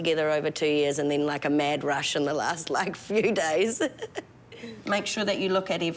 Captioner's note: chuckles